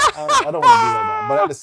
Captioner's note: laughter